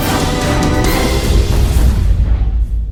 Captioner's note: explosion